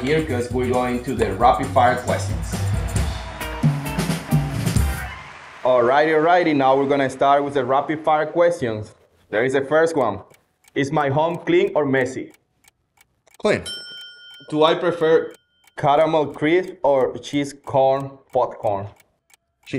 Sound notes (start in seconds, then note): 3.6 transitional music; 13.5 bell dings